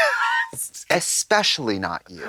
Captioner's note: Katya hisses